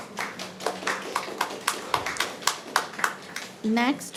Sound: audience applauding

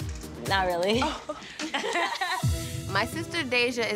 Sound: all laughing

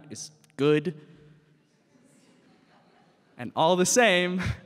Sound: audience chuckles

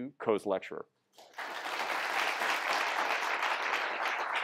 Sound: applause

